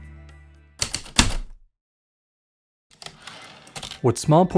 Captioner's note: typewriter keystrokes, return slide